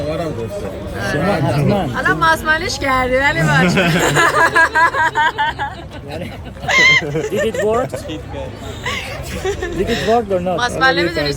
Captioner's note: laughter